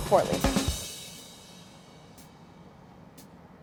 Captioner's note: AC blowing